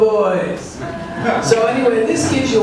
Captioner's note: audience laughs